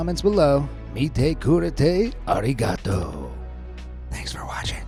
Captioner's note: narrator speaking Japanese